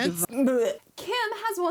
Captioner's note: gagging